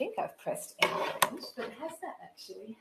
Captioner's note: rattling sound